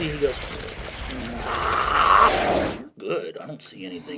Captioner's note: growling